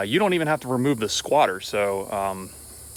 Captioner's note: none